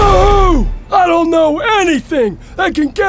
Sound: sheriff exclaiming

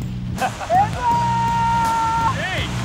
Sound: shouting; laughing

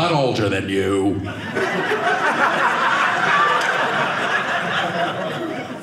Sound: audience laughing

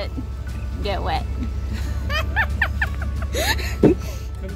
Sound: is laughing

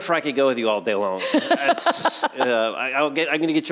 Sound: laughs

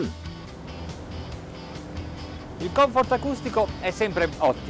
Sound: engine whirring

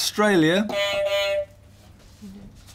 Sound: beep beep

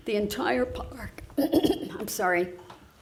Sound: clears throat

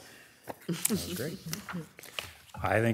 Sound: chuckles

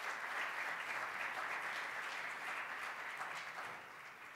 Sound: applause

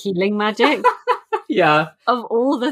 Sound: laughing

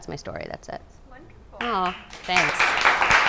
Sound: clapping

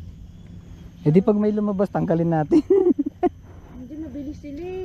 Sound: laugh

